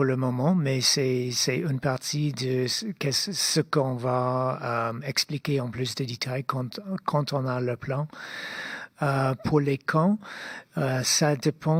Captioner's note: speaking French